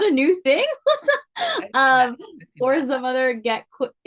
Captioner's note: laughs; speaking faintly